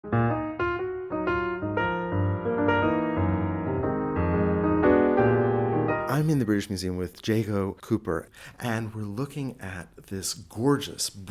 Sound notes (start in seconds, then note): 0.0 piano music; 6.3 voiceover